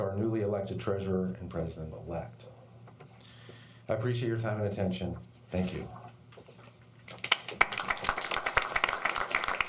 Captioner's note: applause